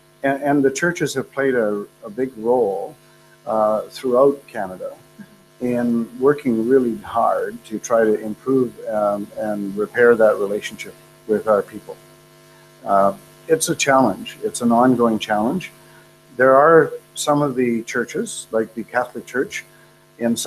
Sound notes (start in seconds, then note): none